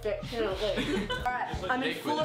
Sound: all laugh

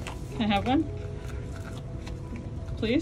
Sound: background music; sound of otter cracking and crunching ice chunk

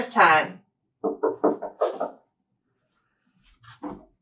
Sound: door knock

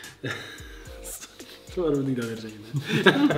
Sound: laugh

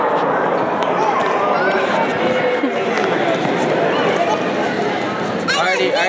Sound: cacophonous crowd in central hall

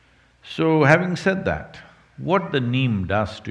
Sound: none

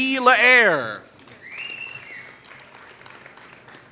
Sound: applause

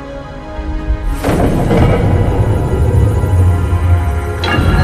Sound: mechanism moving

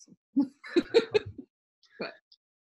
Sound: Kara laughing

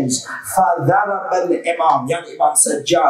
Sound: Arabic

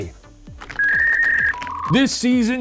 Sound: dial-up ringing

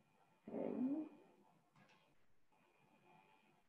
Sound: murmurs

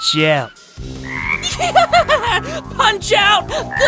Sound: insane laughter

